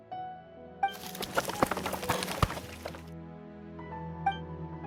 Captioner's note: clatter